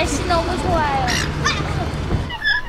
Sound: birds

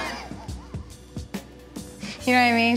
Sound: laughs

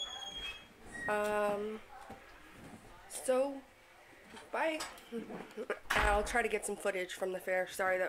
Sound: door opens on other side of room

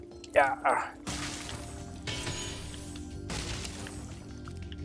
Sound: chests smash

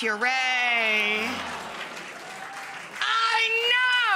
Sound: audience applauding

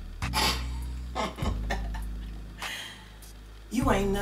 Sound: mom laughs

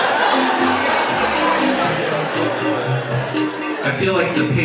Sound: audience laughs

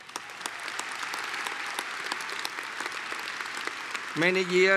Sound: applause

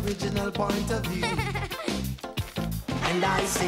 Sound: D.W. Laughs

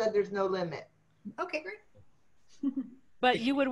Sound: laughter

